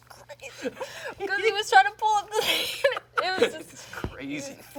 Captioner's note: laughs